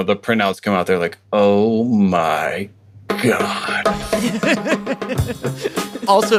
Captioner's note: laughs